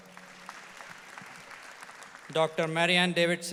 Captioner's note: audience applauds